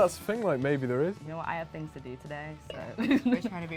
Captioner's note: laughs